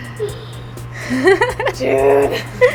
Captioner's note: laughing